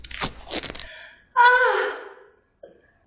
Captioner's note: fabric tearing; moans